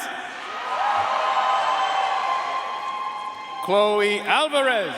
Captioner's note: audience cheering and applauding